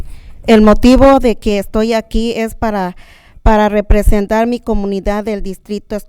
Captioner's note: speaking in a foreign language